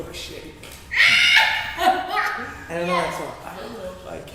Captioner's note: screams